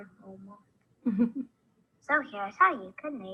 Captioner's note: chuckles